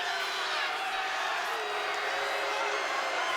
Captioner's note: crowd boos